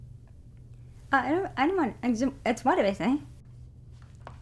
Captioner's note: stuttering